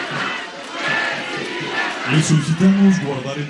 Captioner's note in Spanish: aplausos